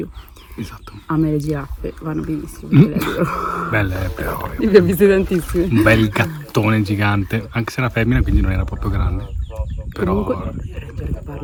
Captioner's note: laughs